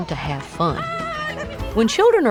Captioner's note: kids yelling